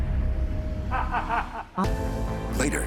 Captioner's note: laughs